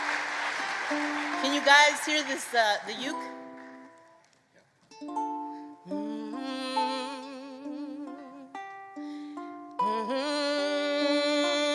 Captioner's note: applause